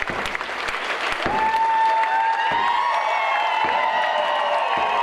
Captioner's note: group cheering